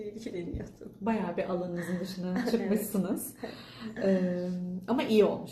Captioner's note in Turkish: kahkaha